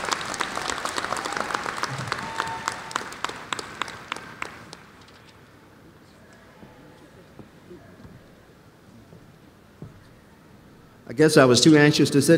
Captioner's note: applause